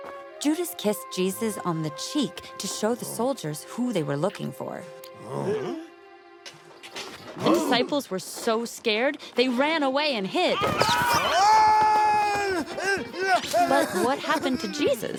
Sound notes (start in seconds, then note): 5.1 grunts; 11.2 shouting